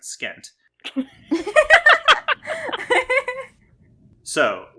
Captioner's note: laugh